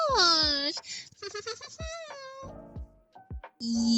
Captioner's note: Weird woody woodpecker valley girl hybrid laugh